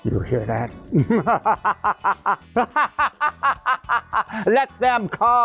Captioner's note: laughs maniacally